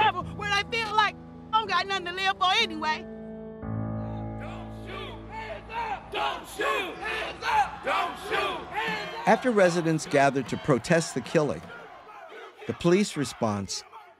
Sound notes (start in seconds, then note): 4.2 crowd; 9.8 voiceover